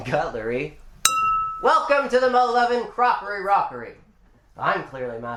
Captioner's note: ding